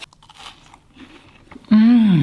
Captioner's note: cookie crunches